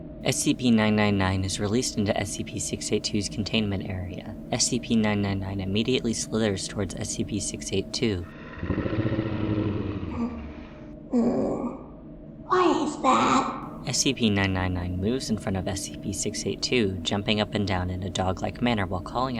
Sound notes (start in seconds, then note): 8.3 elated gurgles; 8.3 unintelligible groans, growling